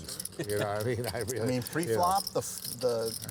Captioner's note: laughs